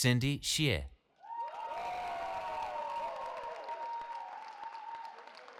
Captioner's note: cheering